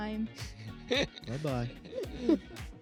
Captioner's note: all laugh